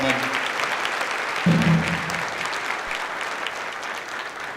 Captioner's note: clapping